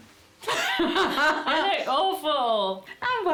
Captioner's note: laughter